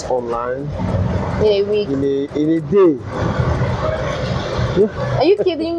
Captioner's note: laughs